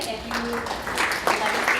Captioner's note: applause